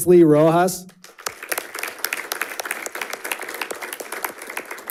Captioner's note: audience applauding